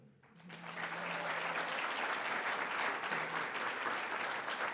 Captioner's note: audience clapping